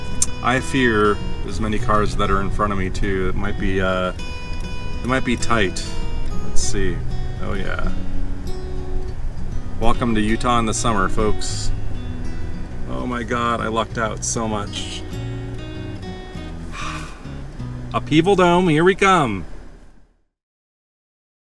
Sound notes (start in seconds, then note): 16.4 sighs